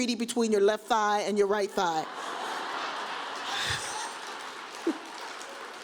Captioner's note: audience laughs